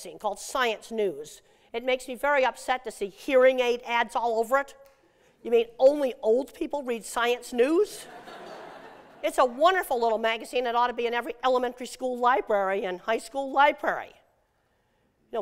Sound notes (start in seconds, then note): 8.0 laughter